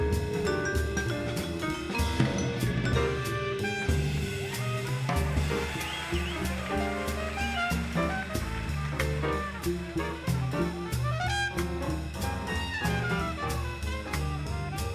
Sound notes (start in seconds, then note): 3.9 audience applauding; 5.3 audience cheering